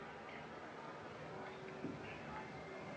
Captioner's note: whispering